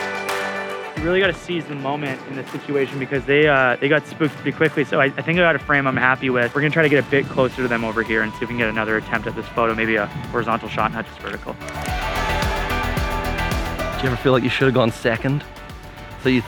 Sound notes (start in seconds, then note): 11.9 camera clicking; 11.9 upbeat music